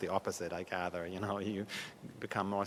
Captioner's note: laughs